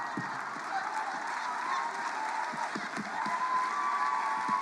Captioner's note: cheers and applause